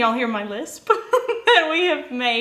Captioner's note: laughing